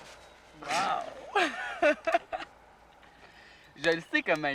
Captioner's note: rires